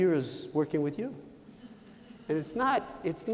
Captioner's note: laughter